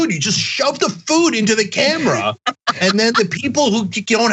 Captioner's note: laugh